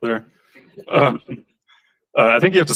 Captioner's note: laughter